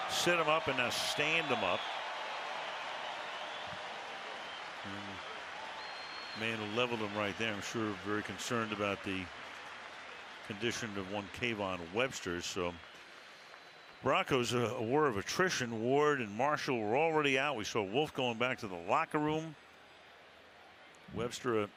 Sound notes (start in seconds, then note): 2.7 crowd cheering